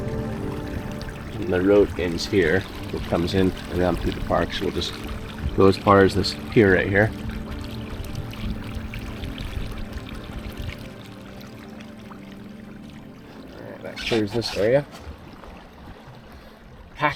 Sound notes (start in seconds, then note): 7.8 suspenseful music continues; 7.8 water lapping gently